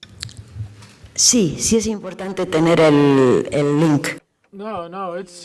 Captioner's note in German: spanisch